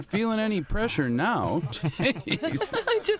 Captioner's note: laughter